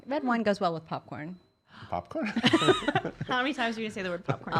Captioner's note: laughing